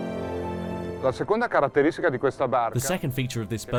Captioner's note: man speaks foreign language